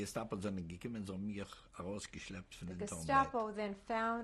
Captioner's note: speaking yiddish